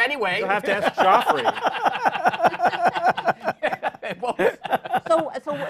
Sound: laughter

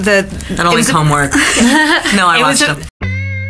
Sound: laughing

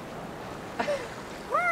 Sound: laughing

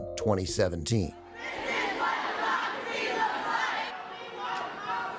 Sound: crowd chanting

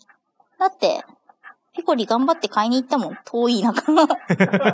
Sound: laughs

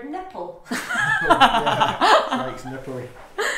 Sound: laughs

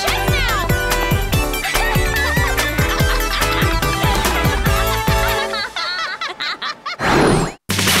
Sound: laughter

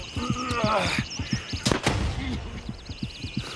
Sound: gunfire

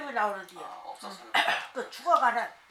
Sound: cough

